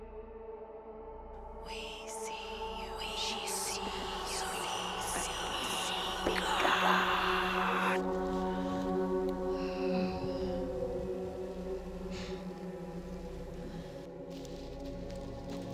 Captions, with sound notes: - We see you. - We see you. - She sees you. - We see you. (whispered voices hissing) (dark eerie music)